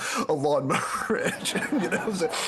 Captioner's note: laughs